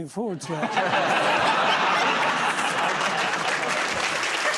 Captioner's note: laughter; applause